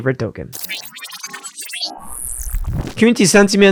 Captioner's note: machine whirring